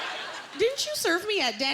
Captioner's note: laughter